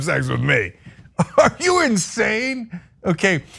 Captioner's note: laugh